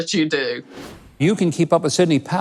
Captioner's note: wind whooshing